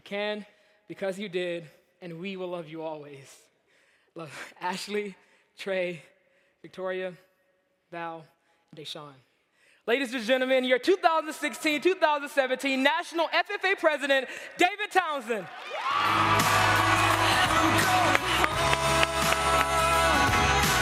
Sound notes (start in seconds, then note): 15.4 cheers